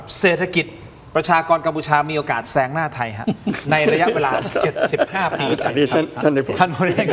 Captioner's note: laughs